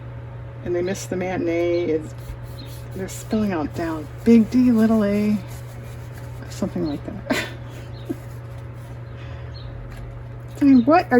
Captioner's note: laughs